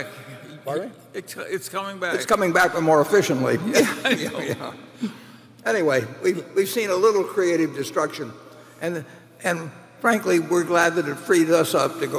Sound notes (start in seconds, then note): 3.7 laughter